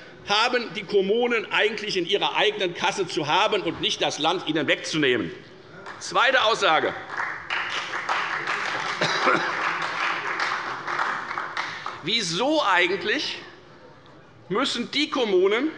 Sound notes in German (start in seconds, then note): 6.8 Beifall bei der FDP und bei Abgeordneten der SPD